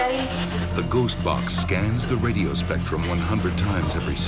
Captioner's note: voiceover